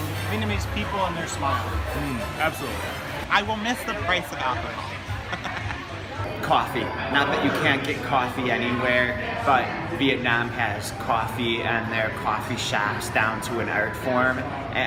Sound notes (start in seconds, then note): 5.1 laughing